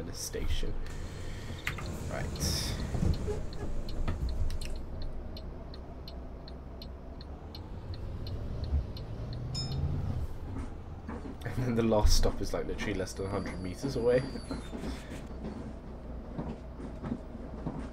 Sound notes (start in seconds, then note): 9.5 bell Dings